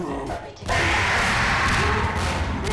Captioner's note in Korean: 비명소리